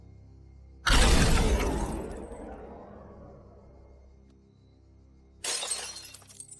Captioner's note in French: tirs d'armes à feu